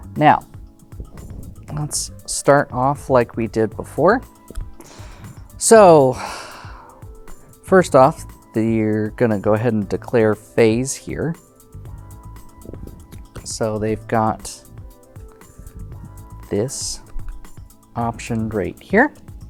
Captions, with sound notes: Now, let's start off like we did before. So, (sighs) first off, they're gonna go ahead and declare "phase" here. So, they've got this option, right here,